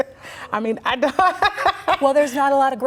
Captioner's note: laughter